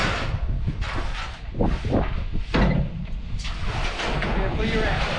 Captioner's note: roofing shits clanking